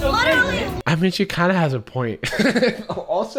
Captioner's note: laughs